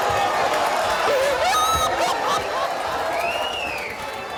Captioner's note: wailing